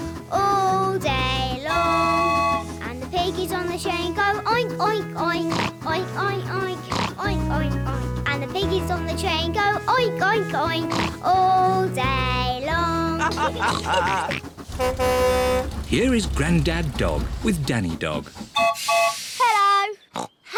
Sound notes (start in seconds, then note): 13.1 all chuckle; 13.3 horn blares; 18.5 toots whistle